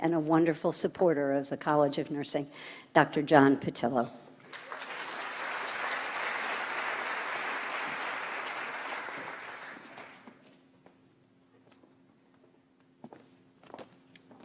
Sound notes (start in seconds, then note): 4.4 audience applauds